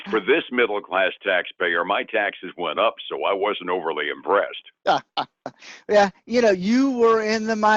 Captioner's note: laughs